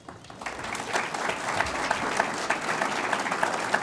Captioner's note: audience applauds